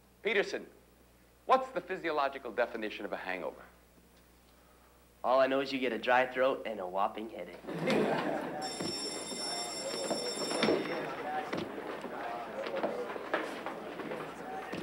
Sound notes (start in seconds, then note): 7.6 students chuckle; 8.5 bell rings; 9.2 students chatter